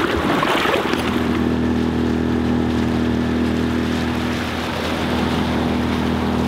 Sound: boat engine humming; car whooshing past

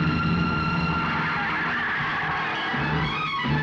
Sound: tires squealing

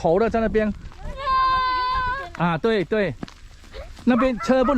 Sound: kid shouting

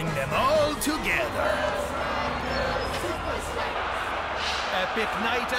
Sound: crowd

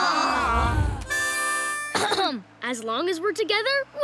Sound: groaning; clearing throat

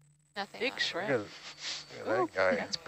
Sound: chatter; male Voice

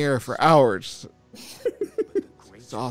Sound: laughs

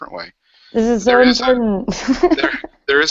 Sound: laughs

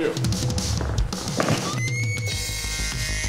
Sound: woman screams; eerie music

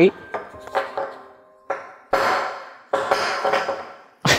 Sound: skull clatters

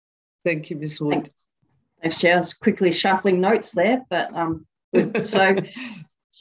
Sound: laughter

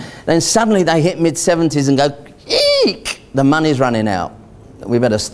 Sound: squeaks

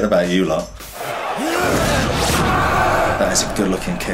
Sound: crowd yells; fighters groan

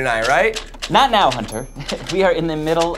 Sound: laughs

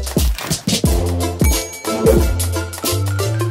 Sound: bell dings

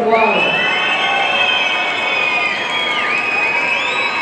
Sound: audience cheering

